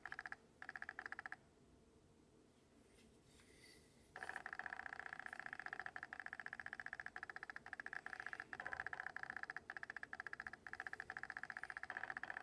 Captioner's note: autofocus noise intensifies